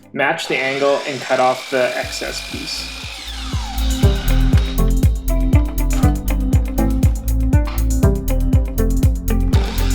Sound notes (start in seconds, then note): 3.8 mitre saw screeching; 3.8 upbeat music